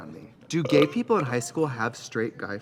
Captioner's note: Katya belches